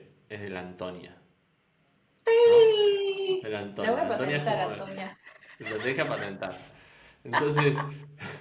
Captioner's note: laughs